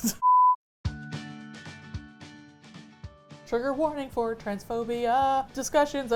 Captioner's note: laughs; singsong